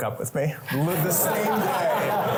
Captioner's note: laughter